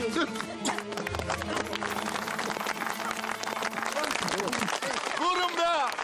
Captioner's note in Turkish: Alkışlar